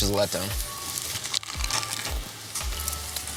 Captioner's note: Crunch